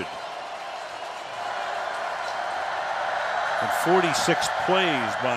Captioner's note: cheering